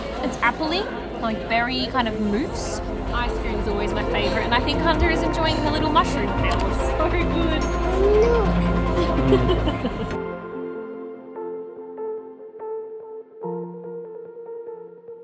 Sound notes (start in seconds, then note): 7.3 upbeat music; 8.0 laughing; 10.2 soft music